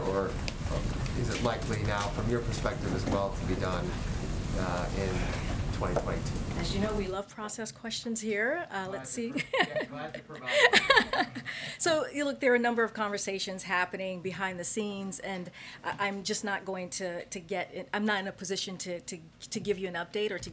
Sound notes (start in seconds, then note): 9.3 laughs